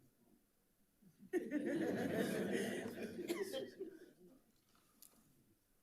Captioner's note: attendees laughing